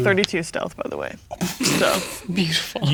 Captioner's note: players laughing